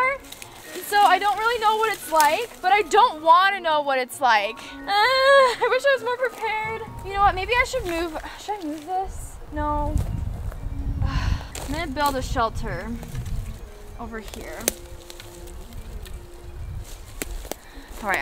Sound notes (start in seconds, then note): 4.6 moans; 11.0 sighs; 14.9 soft orchestral music